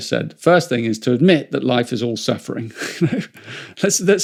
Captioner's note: chuckles